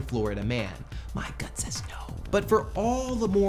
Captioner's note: whispering